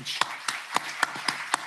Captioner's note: applause